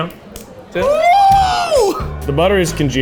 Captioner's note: cheers